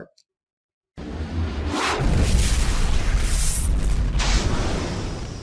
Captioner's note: fire crackling